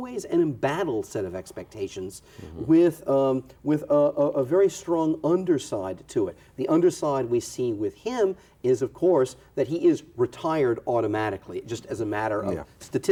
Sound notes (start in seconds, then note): none